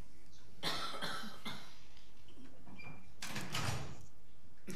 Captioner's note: coughing